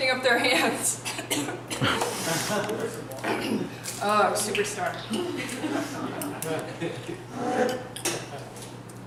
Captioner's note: cough, cough